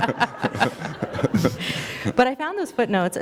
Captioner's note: laughter